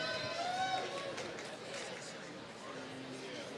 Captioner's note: applause